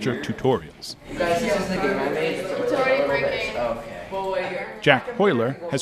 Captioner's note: students chattering